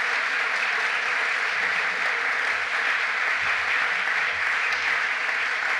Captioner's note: applause